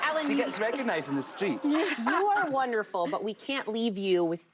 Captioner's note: applause